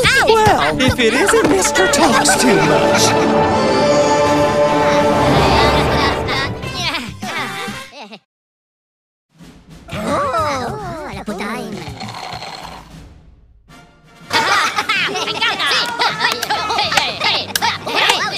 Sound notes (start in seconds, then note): 14.3 Minions Laughing